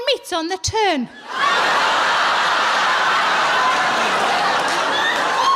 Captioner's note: audience laughing